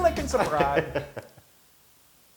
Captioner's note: laugh